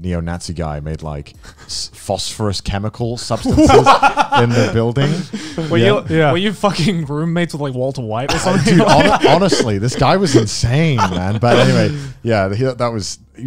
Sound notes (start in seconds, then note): 3.4 laughing